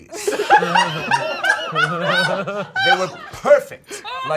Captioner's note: all laughing